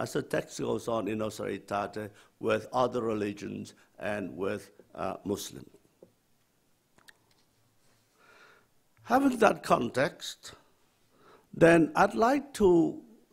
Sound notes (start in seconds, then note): none